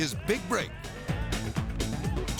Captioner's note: upbeat music; audience cheering